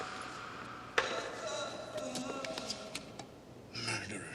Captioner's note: groaning